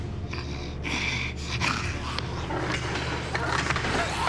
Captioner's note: Jessie snarling